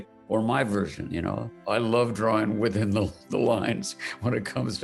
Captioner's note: laughing